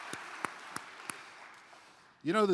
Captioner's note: applause